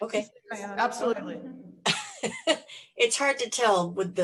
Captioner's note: laughing